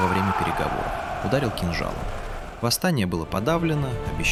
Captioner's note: scream